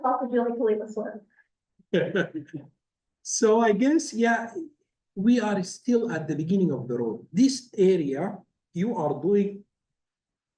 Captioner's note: laugh